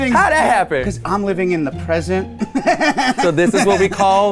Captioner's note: laughs